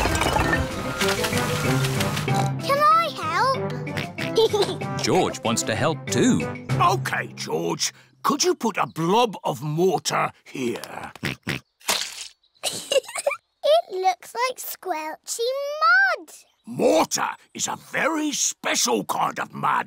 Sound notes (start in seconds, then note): 3.9 oinks and giggles; 3.9 oinks; 10.8 oinks; 12.6 giggles